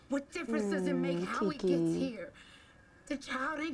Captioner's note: none